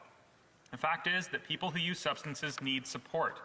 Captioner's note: none